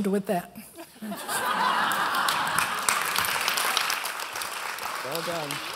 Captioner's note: applause